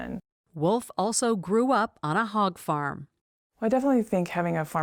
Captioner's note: voice-over